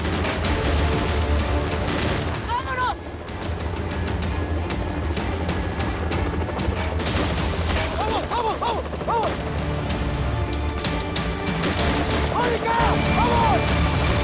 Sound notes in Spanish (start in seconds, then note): 0.0 Disparos; 10.8 Disparos